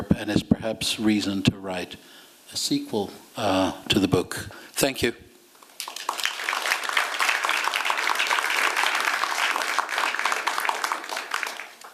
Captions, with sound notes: And it's perhaps a reason to write a sequel to the book. Thank you. [applause]